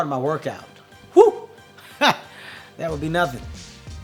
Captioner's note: laughs